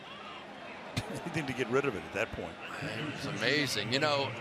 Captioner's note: laughs